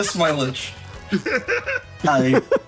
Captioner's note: laugh